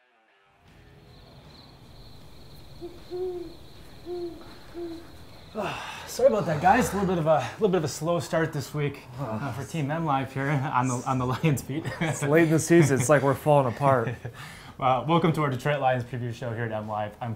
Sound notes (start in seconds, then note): 0.7 crickets and owl hooting